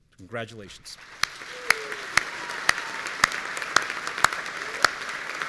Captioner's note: audience cheering